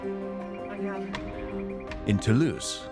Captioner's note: people talking in background